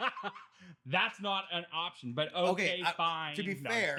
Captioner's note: laughing